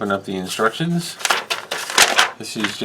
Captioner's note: paper crinkles